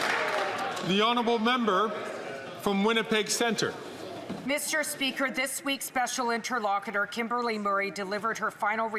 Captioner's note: some Applause